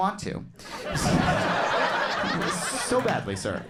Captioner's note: crowd laughs